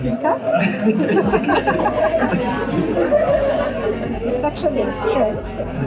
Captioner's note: group laughter